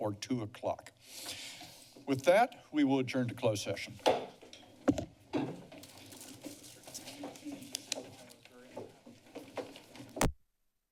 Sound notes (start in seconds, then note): 4.1 gavel tap